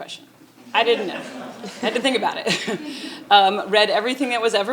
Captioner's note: chuckles